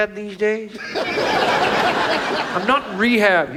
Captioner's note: audience laughs